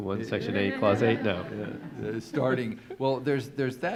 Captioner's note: audience laughs